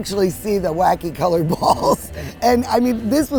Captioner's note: chuckles